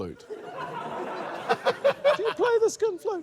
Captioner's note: laughter